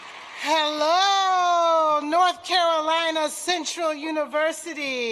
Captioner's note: applause